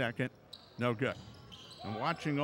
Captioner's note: shoes squeaking; yelling